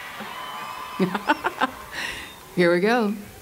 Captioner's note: laughter